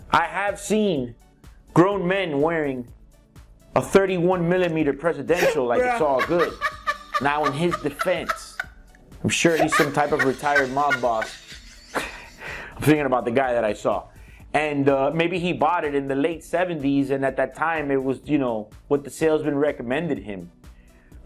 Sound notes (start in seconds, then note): 7.0 laughter; 11.4 laughter